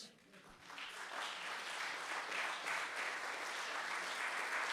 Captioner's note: audience applauding